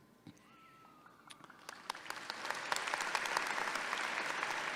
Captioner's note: audience clapping